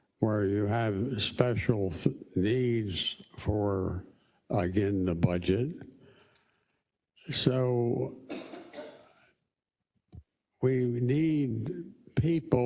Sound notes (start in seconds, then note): 8.0 cough